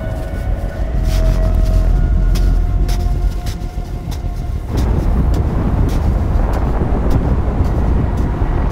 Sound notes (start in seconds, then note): 1.7 snow squelching; 4.5 strong winds blowing